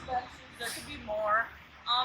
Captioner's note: automated announcement